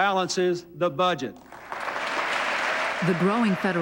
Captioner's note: applause